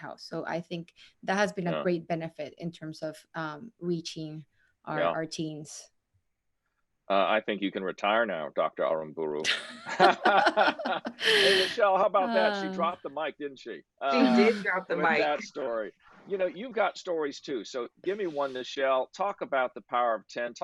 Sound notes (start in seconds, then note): 9.8 laughing